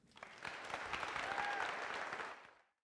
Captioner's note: applause